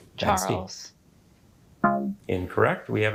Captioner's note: womp chimes